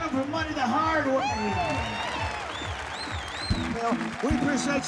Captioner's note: crowd cheers, claps